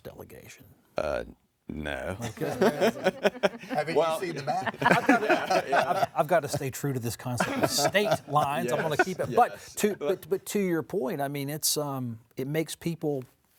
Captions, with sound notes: in North Carolina's US House delegation? - No. [laughing] [panelists laughing] - Okay, there isn't. - Haven't you seen the map? - I've gotta stay true to this conceptof state lines, I'm wanna keep it. But to your point, I mean,